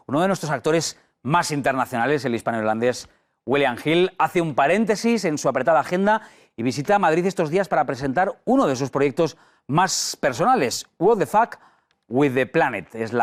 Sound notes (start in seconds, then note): none